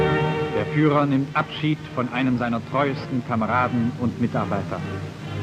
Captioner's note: speaking German